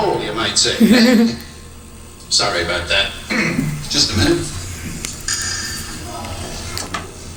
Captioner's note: laughter; clears throat